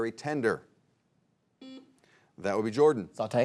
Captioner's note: buzzer beeps